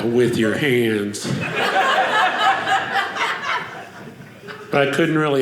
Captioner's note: audience laughing